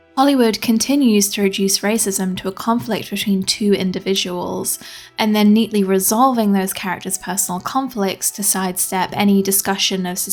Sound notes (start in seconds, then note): none